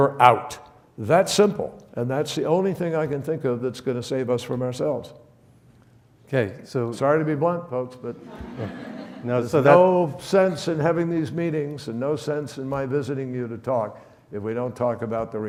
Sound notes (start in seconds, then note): 8.1 audience laughs